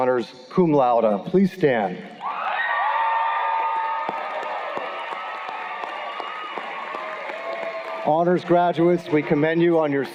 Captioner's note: cheers and Applause